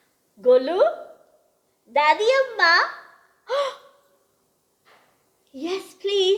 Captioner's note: speaks in gujarati